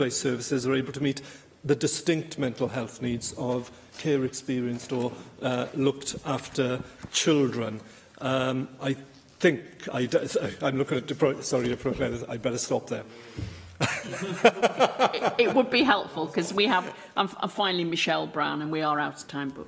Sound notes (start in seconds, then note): 13.8 laughter